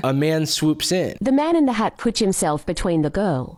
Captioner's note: AI voiceover